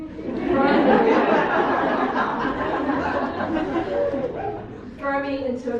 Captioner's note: audience laughs